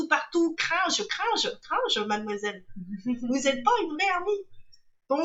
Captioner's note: laughs